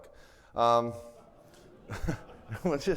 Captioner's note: everybody laughing